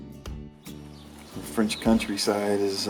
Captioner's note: running water